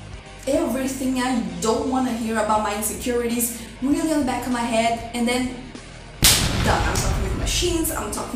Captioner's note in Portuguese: boom